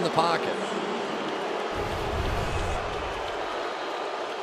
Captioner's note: booing